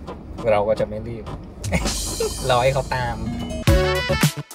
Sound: laugh

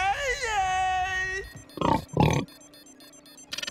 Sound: snorting

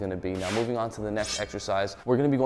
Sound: air whooshing; blades clinking

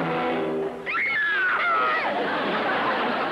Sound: both screaming

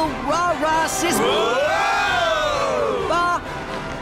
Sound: cheering

